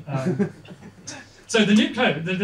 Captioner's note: laughter